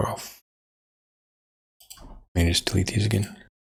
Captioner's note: blank Audio